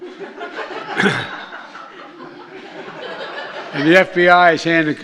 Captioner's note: laughter